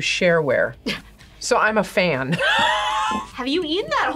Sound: laughs

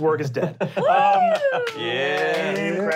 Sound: clapping

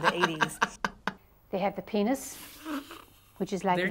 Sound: laughs; snickers

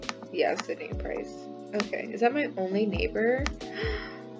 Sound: gasps

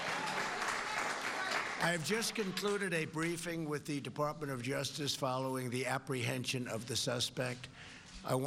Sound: cheers and applause

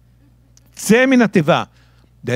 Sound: speaking in Hebrew

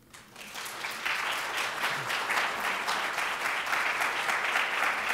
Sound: audience applauding

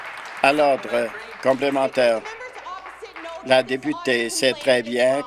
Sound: applause

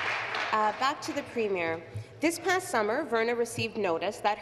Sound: applause

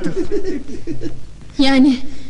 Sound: laughing

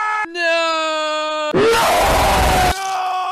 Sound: homophobic Death Cry

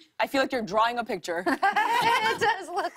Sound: laughter

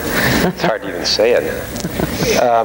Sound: audience laughing

